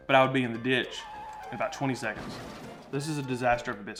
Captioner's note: brakes squealing